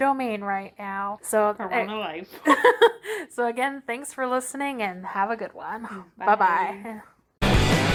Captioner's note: laughs; outro music plays